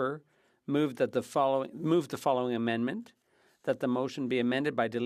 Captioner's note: speaking French